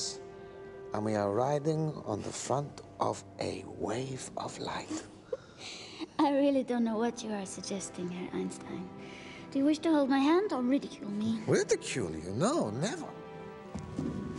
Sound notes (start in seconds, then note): 4.5 laughs